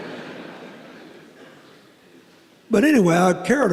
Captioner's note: laughter